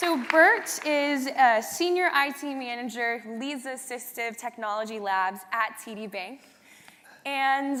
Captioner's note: applause